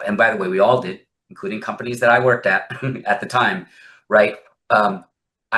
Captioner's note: laughs